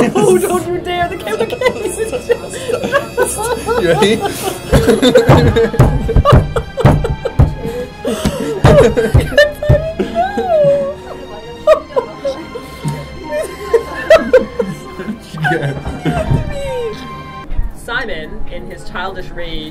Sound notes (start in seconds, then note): 4.7 anteater death thumps